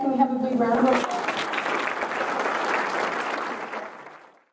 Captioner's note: applause